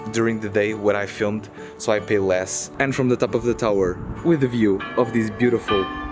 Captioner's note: chruch Bells